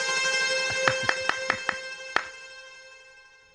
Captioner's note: applause